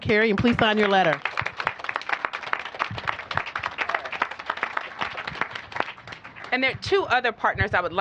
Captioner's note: applause